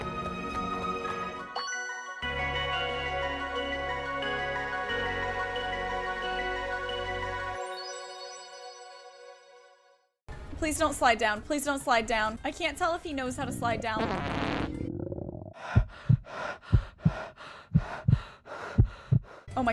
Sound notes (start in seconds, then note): 1.8 epic music; 13.3 deep grumbling; 13.4 farting; 15.1 heavy breathing; 15.5 loud heart beat